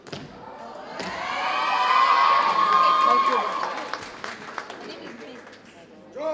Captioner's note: audience cheers and applauds